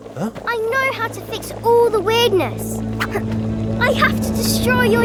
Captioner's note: grunts